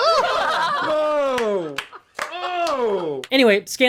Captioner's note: laughter, cheering